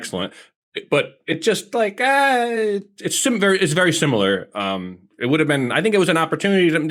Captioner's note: groans